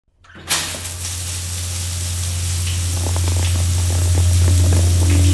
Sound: shower runs; ominous Music plays

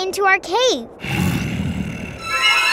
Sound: growling

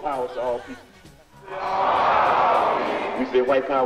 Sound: crowd

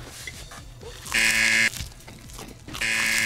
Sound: buzzer rings

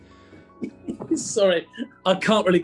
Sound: chuckling

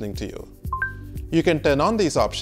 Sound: high beep

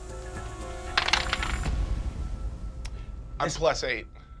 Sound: dice clatter

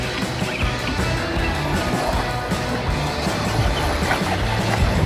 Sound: retro music; tires squeaking

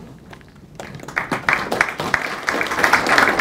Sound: clapping

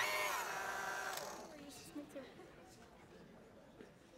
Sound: background chatter

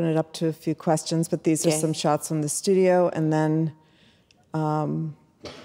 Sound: murmurs

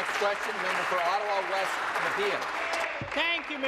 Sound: applause

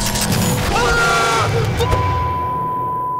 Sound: unsettling warble; screams heartily

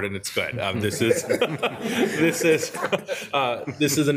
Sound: group laughing

